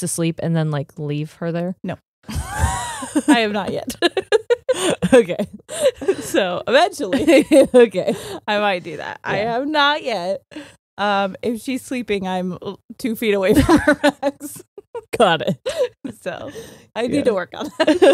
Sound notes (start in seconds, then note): 2.2 both laughing; 6.8 laughs; 13.5 both laughing